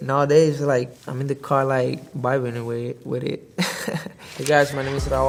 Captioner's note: laughs